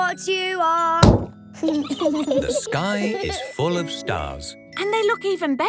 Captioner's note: giggling